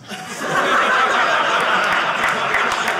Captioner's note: audience laughing